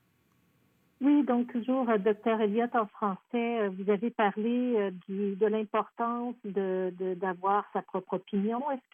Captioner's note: speaking French